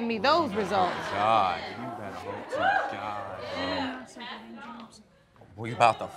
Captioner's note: muttering